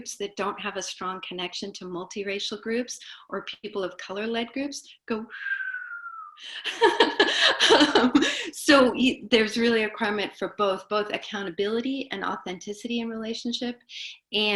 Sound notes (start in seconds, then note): 5.4 whistles and laughs